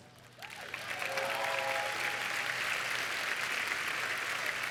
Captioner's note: applause